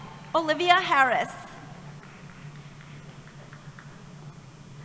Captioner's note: applause